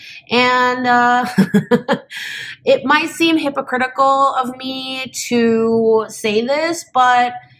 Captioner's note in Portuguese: risos